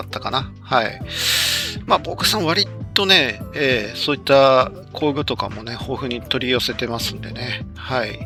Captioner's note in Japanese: 息をのむ音